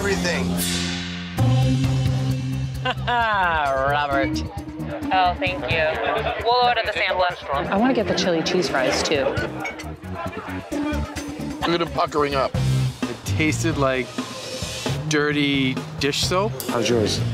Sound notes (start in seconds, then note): 2.0 intense music; 2.8 laughs; 9.9 intense music